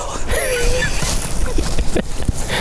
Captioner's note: laughing